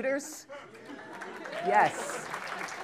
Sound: applause

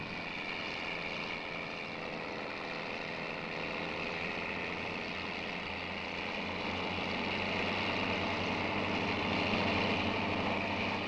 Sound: sound of machinery

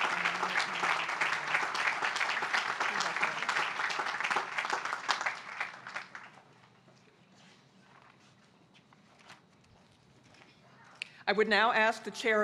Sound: applause

